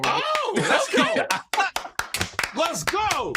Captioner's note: clapping